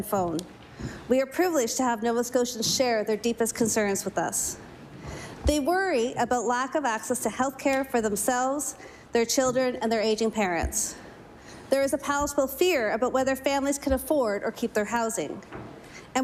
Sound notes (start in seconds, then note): none